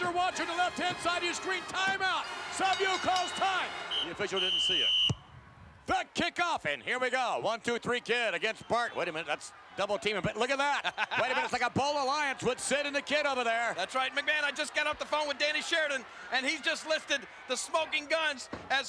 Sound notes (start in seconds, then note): 2.2 bell ringing; 4.7 referee whistling; 5.0 ball thumping; 10.8 Jerry chuckling